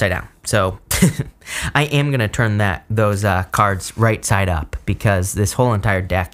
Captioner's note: laughs